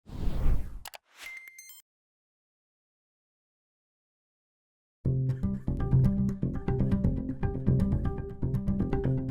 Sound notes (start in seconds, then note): 0.0 whooshing; 5.1 acoustic music